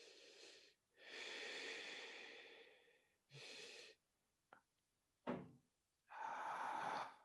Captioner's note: breathing deeply